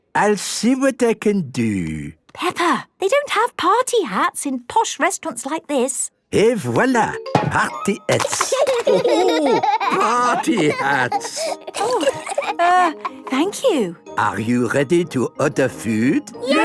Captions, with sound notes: I'll see what I can do. - Peppa! They don't have party hats in posh restaurants like this! - Et voilà! Party hats! - (laughing) - Oh, ho! Party hats! - Err... thank you. - Are you ready to order food?